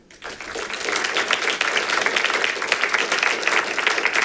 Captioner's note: audience applauding